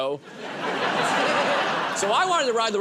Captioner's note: laughter